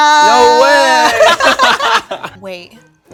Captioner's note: all laugh